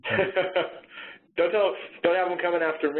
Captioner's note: laughs